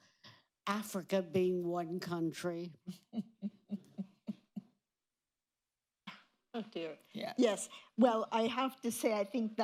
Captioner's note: laughter